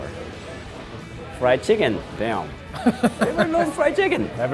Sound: laughs

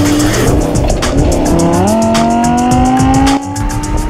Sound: engine accelerating

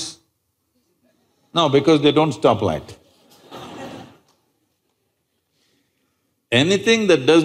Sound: laughter

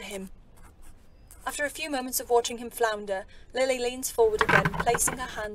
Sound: chair creaking

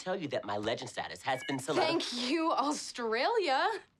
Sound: phone beeps

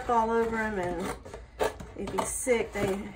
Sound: cutting sounds

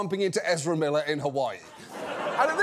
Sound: audience laughs

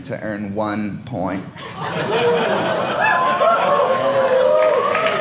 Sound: audience laughing

